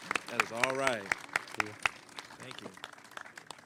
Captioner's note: applause